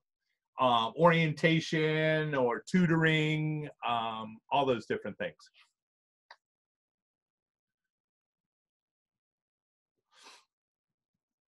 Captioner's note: silence